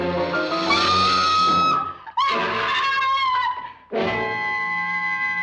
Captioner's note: person screaming